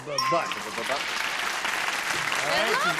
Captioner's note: applause